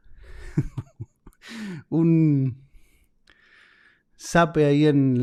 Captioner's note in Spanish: risas